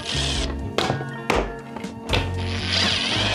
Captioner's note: impact thumps; tool whirs